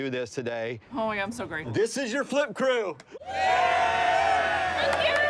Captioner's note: cheers